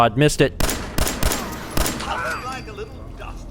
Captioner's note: blam! blam! blam! blam!